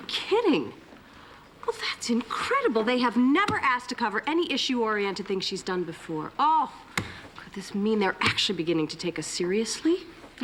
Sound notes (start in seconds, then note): none